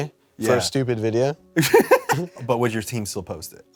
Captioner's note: laughs